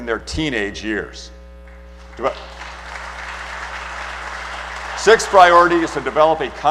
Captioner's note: applause